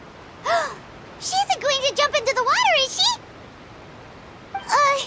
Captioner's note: gasp